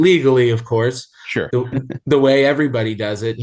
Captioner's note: chuckling